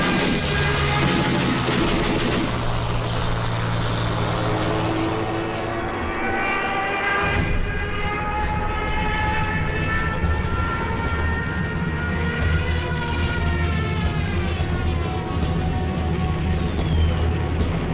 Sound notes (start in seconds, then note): 0.3 plane engine roaring; 7.2 explosion booming